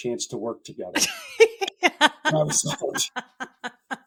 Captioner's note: laughing